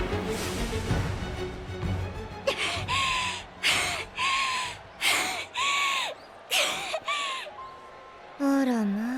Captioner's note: cough; huff